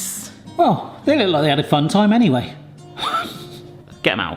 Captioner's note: laughs